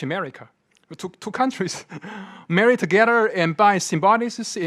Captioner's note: laughing